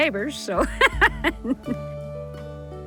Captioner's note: laughs